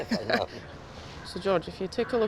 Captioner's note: both chuckling